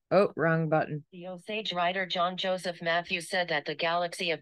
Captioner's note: Synthetic voice 1